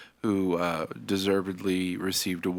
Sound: none

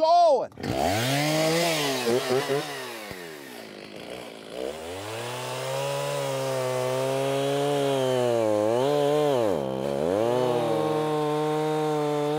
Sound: chainsaw whirring

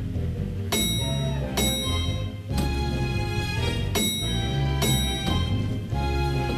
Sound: bell dinging

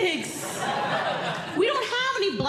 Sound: audience Laughing

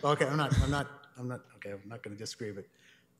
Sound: laughter

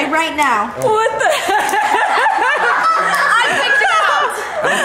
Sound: laughing

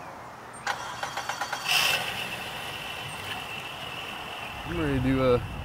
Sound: motor starting

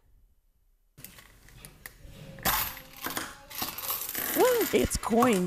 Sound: coins rattling

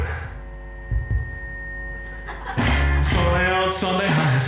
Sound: microphone buzzing; audience laughing

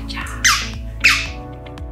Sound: squeaks toy twice

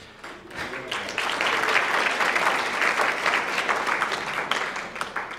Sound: applause

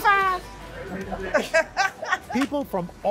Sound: laughter

